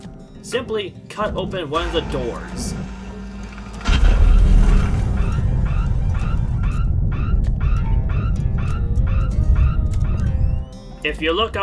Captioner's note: loud beeping